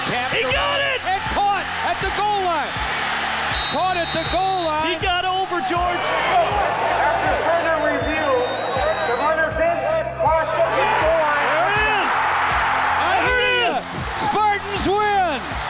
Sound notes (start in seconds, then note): 2.9 crowd cheering wildly; 3.4 whistle blows; 10.6 crowd erupts